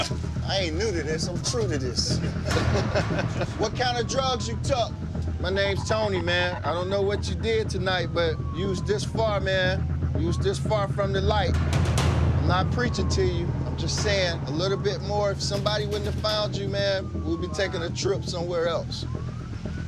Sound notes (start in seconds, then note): 1.9 laughter